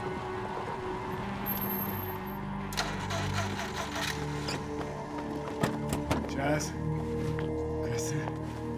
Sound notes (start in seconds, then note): 2.7 car ignition rumbling